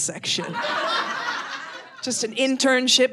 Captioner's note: audience laughing